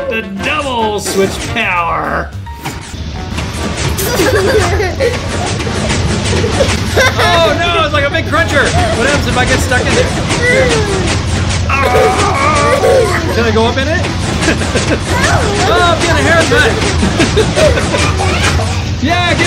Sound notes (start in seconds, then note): 4.0 child laughing; 4.8 pistons crunching; 11.7 child laughing; 16.4 both laughing